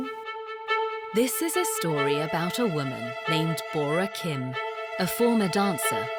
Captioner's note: voiceover